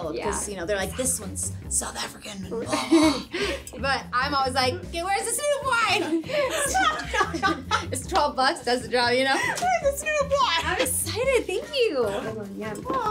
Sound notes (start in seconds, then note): 2.6 chuckles; 5.8 girls laughing